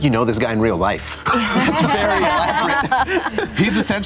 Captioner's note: group laughter